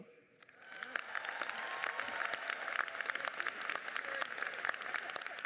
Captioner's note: audience cheers and applauds